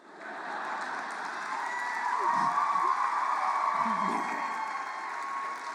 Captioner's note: audience laughs and claps